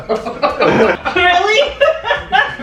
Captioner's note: laughter